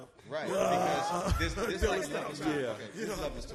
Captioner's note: laughs